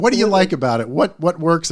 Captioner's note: laughs